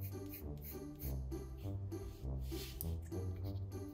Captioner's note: pencil scratching